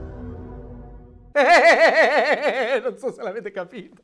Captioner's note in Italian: Risate forzate